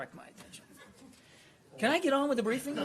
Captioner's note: laughter